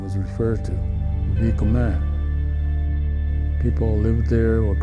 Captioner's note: speaking in foreign language